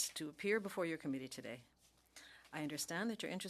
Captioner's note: speaking French